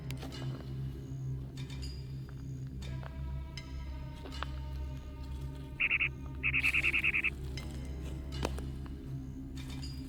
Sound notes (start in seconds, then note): 5.7 bird trilling